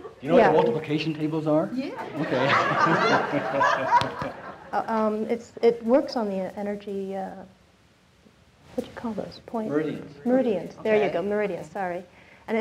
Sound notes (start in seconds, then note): 2.0 audience laughing